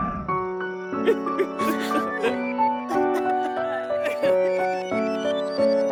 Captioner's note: crying